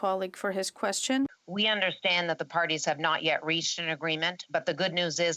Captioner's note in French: voix de l'interprète